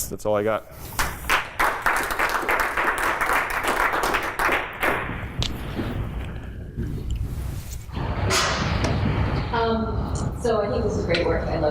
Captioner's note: applause